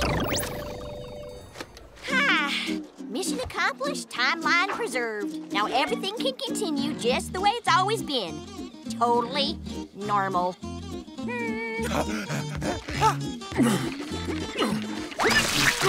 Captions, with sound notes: [sighing] Mission accomplished, timeline preserved. Now everything can continue just the way it's always been. Totally normal. [grunting]